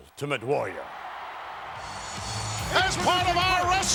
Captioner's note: crowd cheering